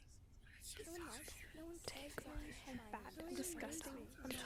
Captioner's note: more whispers; voices growing louder